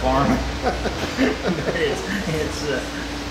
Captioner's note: both laughing